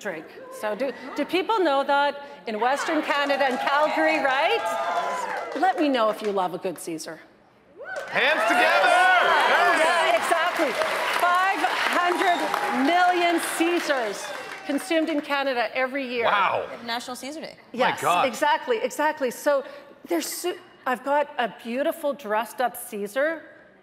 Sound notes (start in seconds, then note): 0.0 audience chattering; 2.8 audience cheering; 2.9 audience applauding; 8.8 audience applauding